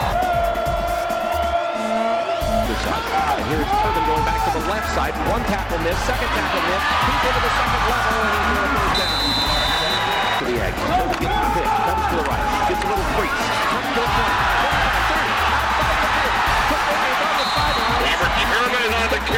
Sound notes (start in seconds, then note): 0.2 crowd boo-ing; 6.3 cheers; 8.8 whistle blows; 14.0 crowd cheering, builds in intensity